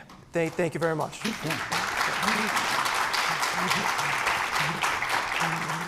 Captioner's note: applause